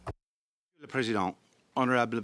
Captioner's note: speaking in French